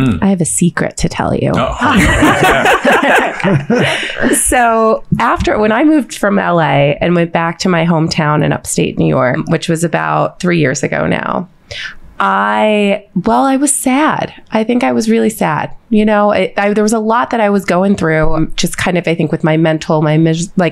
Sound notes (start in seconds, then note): 1.6 all laughing